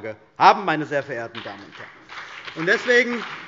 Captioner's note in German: Beifall CDU und BÜNDNIS 90/DIE GRÜNEN